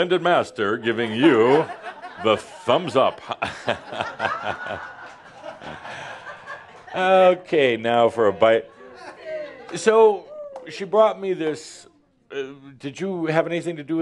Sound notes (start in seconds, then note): 2.8 more laughter